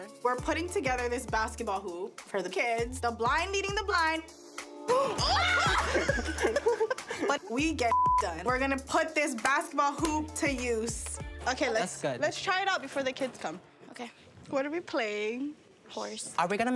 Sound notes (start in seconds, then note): 5.0 all laugh hysterically; 7.8 beep sound